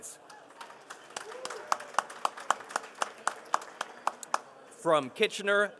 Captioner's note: participants applauding